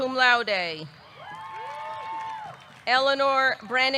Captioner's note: audience cheering; audience clapping